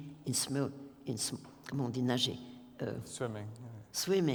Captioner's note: french